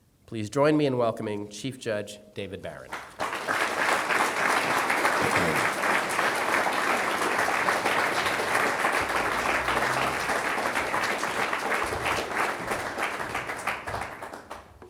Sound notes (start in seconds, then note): 3.5 applause